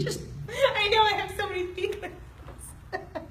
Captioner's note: laughing